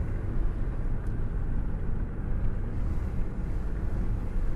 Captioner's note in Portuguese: Barulho de carro na estrada